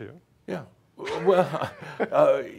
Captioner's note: they chuckle